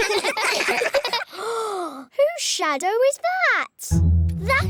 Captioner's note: all giggle; gasps